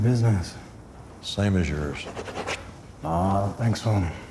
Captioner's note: pen scratching